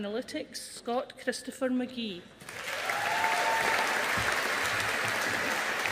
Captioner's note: audience applauding